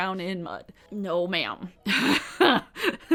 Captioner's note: laughs